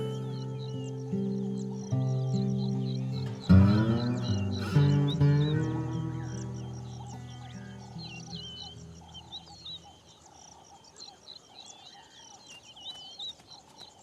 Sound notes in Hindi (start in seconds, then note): 3.4 गिटार संगीत; 7.3 चहचहाहट